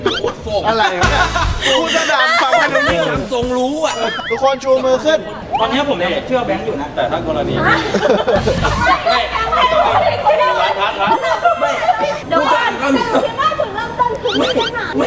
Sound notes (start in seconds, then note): 0.0 laughs; 7.6 chuckles; 11.0 yelling